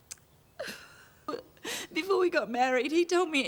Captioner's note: Trina sobbing